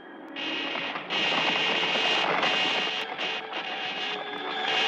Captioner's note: alien ray guns buzzing